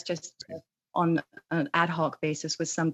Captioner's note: speaking in alternate language